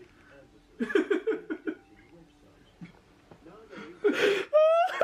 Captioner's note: laugh